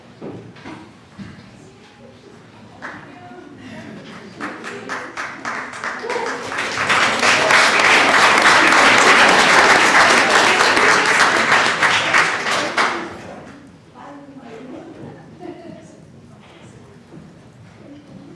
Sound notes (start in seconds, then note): 5.6 applause